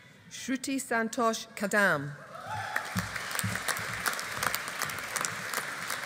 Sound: audience applauding

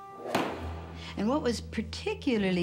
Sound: gavel slams

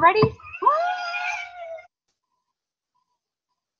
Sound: howling

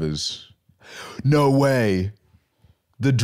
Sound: gasps

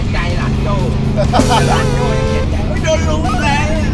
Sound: laughs

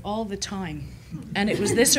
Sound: chuckling

